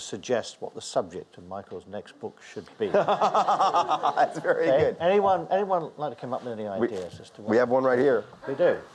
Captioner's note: audience laughs; Michael Lewis laughs